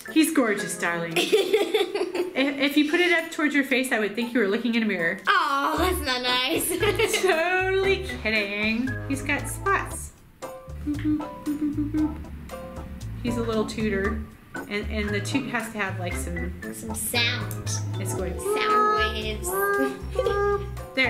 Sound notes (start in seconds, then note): 1.1 laughs; 6.6 laughs; 10.8 humming; 18.0 laughs